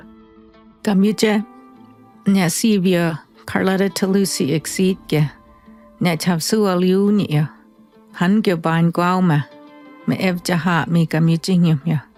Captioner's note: speaking in her native language